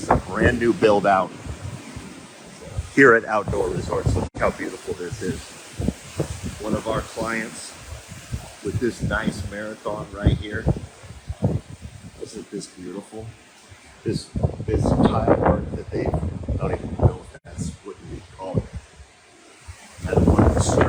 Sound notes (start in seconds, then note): 14.8 wind rustling; 20.6 wind rustling